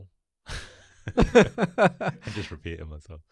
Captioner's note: laughs